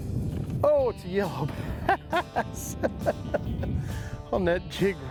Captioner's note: laughs